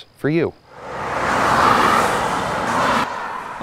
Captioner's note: NATSOT: Traffic noise